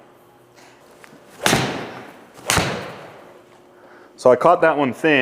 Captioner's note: club smacks ball repeatedly